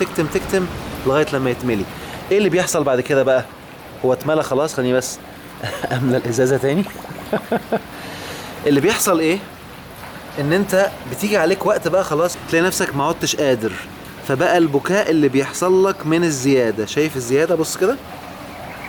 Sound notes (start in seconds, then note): 7.1 laughs!